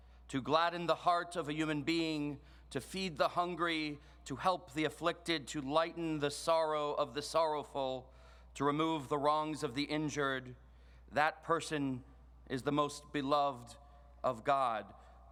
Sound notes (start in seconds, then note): none